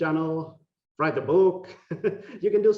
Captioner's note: laughing